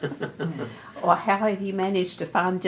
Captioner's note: laughter